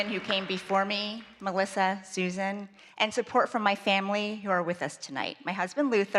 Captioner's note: applause